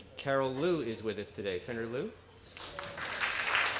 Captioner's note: applause